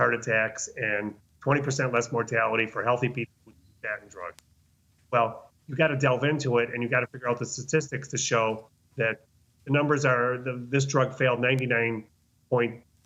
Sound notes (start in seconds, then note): 2.7 speaking faintly